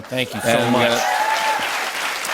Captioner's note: cheers and applause